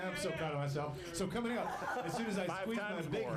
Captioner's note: laughter